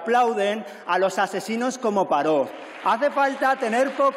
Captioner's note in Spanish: aplausos